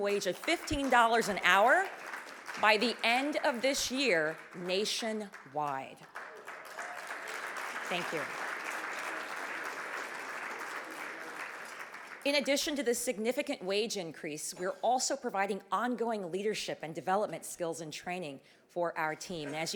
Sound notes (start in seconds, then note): 6.5 audience clapping